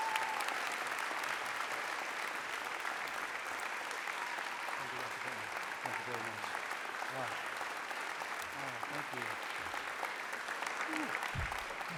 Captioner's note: applause; cheering